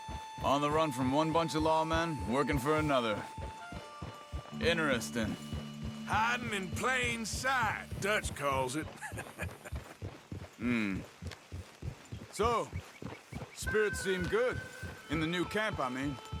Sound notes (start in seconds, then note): 8.8 laughs